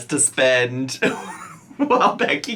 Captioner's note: laughing